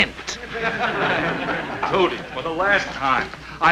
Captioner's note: audience chuckling